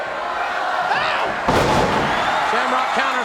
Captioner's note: King exclaims; body thuds